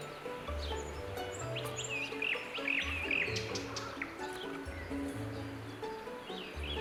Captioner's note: birds chirp, wind blows